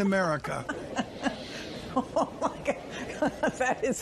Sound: laughing

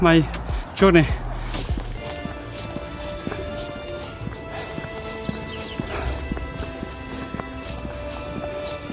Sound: suara burung, suara musik di video ini bagus banget ya

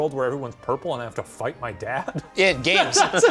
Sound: laughs

